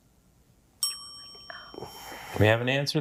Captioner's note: timer dings